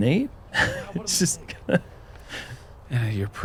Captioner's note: chuckles